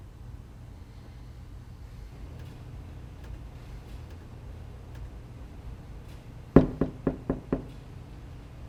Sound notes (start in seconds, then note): 6.5 hurried knocking on door